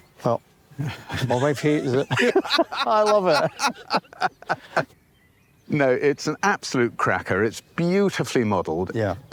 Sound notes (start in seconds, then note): 0.8 all laugh